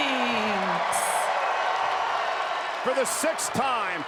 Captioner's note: crowd cheering